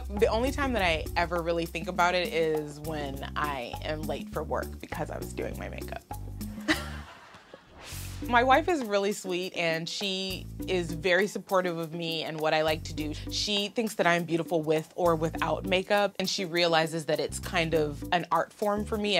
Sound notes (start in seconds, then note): 6.6 laughing